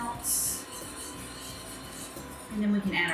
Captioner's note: scraping